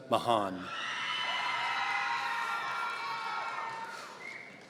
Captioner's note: audience cheering